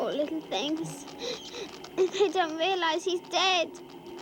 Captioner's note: sobbing softly